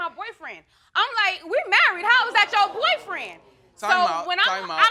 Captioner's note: all exclaiming